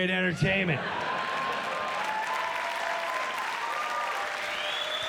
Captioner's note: cheers and applause